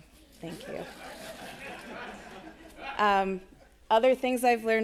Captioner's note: attendees laughing